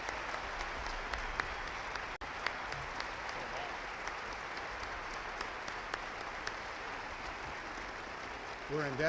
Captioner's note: applause